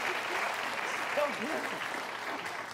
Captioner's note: applause